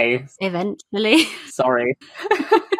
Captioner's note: laughs